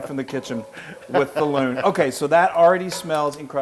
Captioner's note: laugh